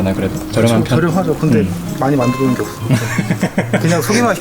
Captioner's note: laughs